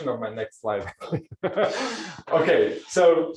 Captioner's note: laughs